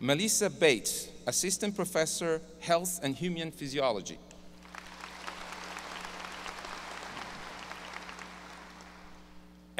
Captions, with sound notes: Melissa Bates, Assistant Professor Health and Human Physiology, ( audience applause )